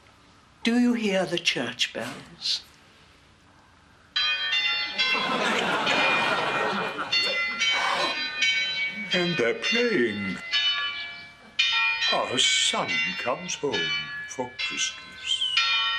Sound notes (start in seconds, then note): 4.0 sound effect of tinny peeling bells